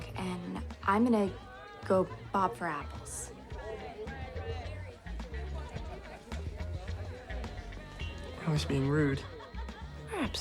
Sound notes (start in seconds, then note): 4.6 groovy music; 4.6 people chattering